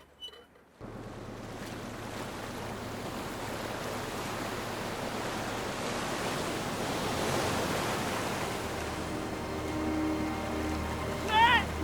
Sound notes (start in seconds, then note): 1.8 waves crashing; 8.2 ethereal music